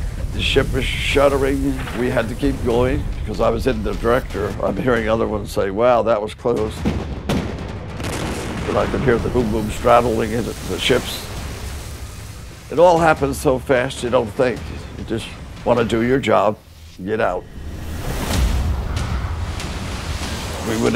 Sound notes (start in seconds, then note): 6.8 artillery fire